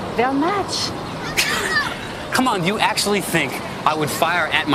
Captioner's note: laughs